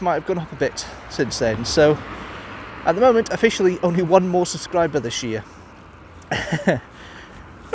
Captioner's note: chuckle